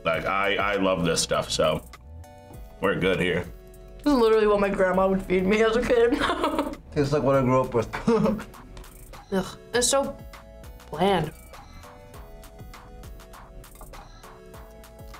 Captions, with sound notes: - Like, I love this stuff, so, we're good here. - This is literally what my grandma would feed me as a kid. (laughs) - Tastes like what I grew up with. (laughs) - Ugh, it's so bland.